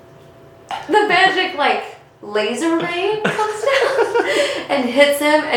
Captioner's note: laughing